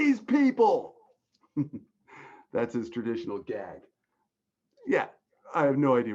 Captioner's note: chuckling